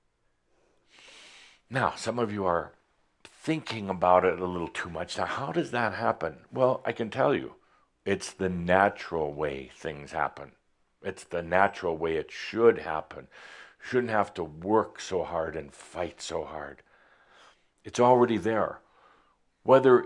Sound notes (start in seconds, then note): none